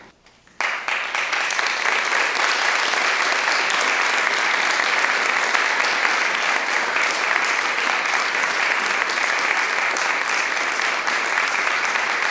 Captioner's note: applause